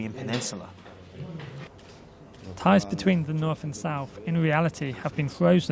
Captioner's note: Korean